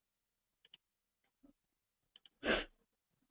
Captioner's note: pause